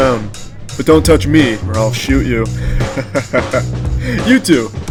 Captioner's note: laughs